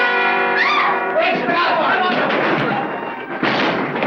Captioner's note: shouting